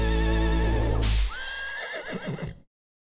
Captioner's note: whip cracks; horse whinnies